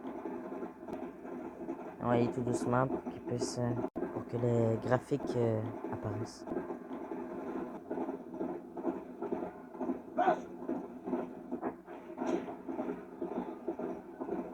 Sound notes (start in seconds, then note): 8.4 sounds of galloping horse; 10.2 cries in the distance; 11.4 sounds of welcome; 12.6 sounds of galloping horse